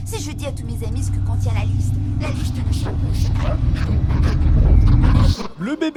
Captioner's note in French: voix progressivement distordue